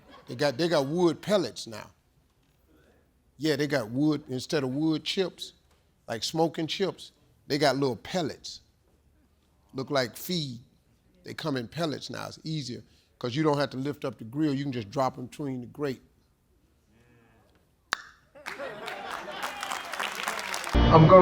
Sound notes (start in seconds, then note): 17.9 tongue popping; 18.3 audience clapping